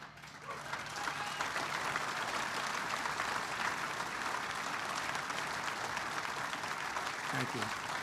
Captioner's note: applause